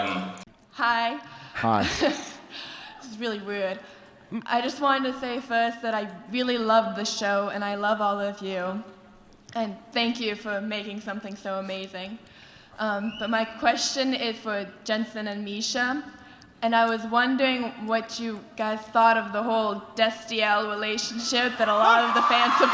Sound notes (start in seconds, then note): 2.1 fan giggles nervously; 21.2 crowd starts to aggressively cheer